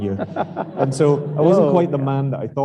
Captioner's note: laughing